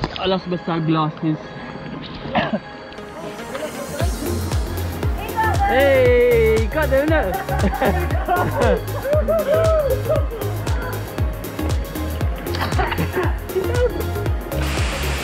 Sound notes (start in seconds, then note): 10.6 all laughing